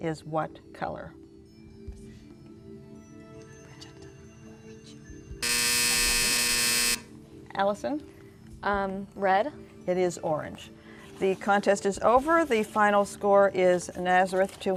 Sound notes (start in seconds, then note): 0.2 whispering; 5.4 buzzer